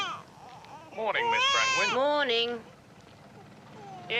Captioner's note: baby crying